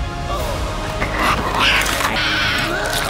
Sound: growls; yells

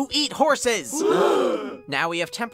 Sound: they gasp

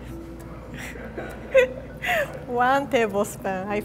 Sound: laughter

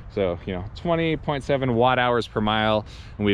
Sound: none

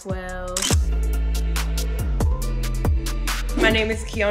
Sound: camera click

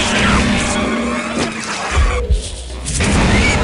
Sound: gunfire and pig noises; more gunfire and pig noises

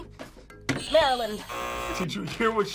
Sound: buzzer rings; buzzer

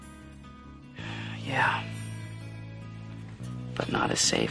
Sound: exhales

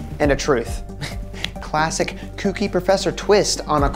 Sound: chuckles

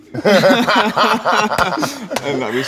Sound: laughter

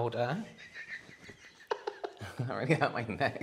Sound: snickering in the background

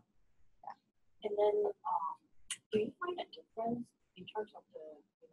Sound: voiceover

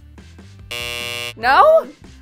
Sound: buzzer sounds

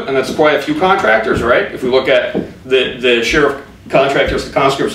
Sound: none

